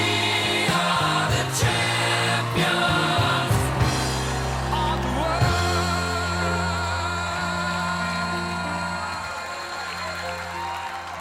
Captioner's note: cheers and applause